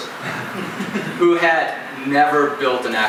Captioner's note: audience chuckles